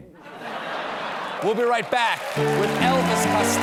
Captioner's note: laughter